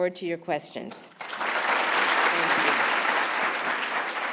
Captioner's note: applause